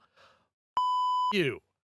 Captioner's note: beep